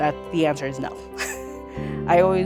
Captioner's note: laughing